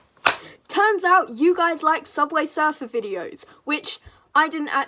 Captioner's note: clap